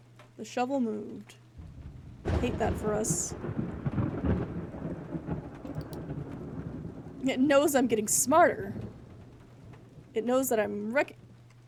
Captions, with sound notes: The shovel moved. Hate that for us. [Thunder Rumbling] It knows I'm getting smarter! It knows that I'm recog-